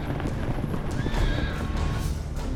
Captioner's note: horse whinnies